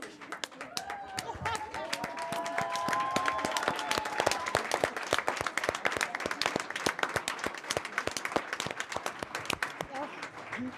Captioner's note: applause